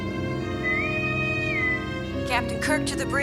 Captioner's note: intercom whistles